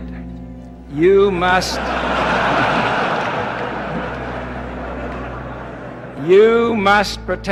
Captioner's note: congregation laughing